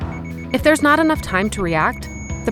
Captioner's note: beeping